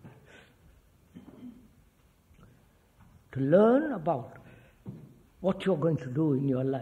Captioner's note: laughs